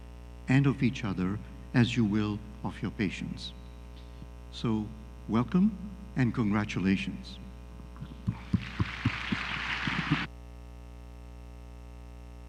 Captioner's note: applause